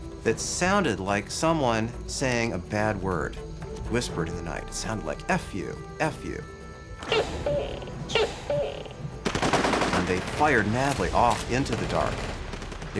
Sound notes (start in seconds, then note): 7.0 gecko croaking; 9.2 rifles firing